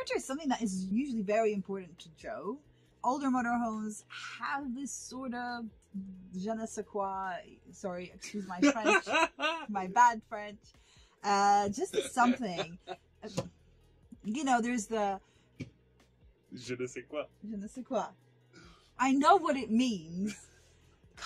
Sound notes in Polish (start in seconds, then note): 8.6 wybucha śmiechem